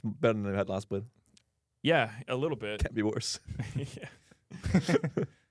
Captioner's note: laughs